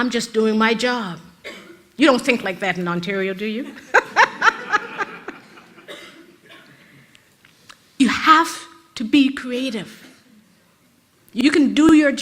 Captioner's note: rires de l'auditoire